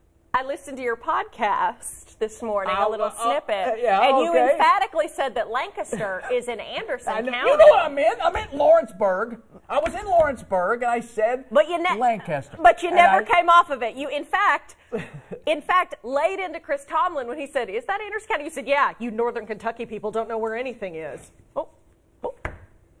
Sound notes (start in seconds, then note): 0.1 laughter